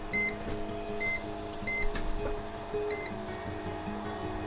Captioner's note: timer beeping